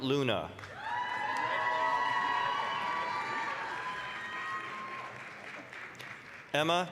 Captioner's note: applause, cheering